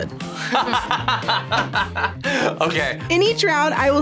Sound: both laugh

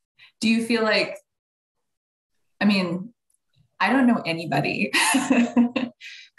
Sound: laughing

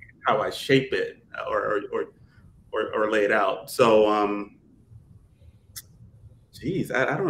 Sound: none

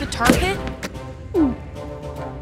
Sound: gulping

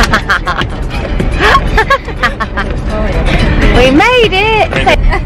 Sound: woman laughing

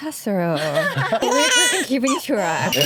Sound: laughs

